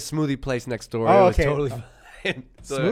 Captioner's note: laughs